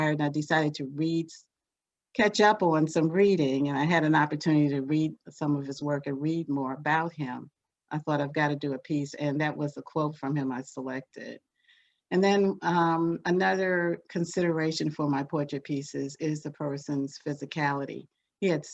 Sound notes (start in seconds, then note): none